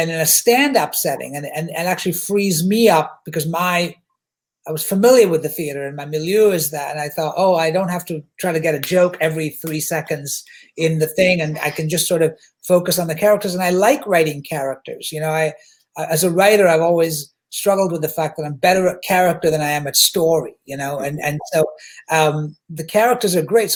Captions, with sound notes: "than in a stand-up setting and actually frees me up," because my... I was familiar with the theatre and my milieu is that. And I thought, "Oh, I don't have to try to get a "joke every (slaps hand) "three seconds in the thing. (slaps hand) And I can just sort of focus on the characters. And I like writing characters, you know. As a writer I've always struggled with the fact that I'm better at character than I am at story. And so the characters are great.